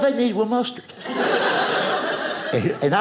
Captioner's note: audience laughing